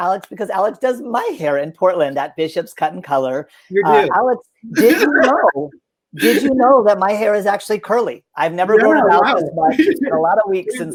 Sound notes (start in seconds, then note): 4.7 laughs